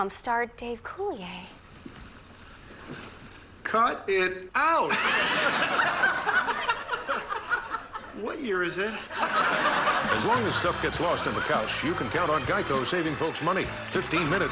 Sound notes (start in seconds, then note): 4.9 laughing